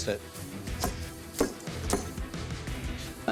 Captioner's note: thudding